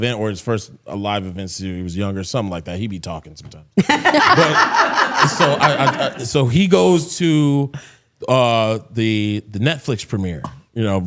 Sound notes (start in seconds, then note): 3.8 both laughing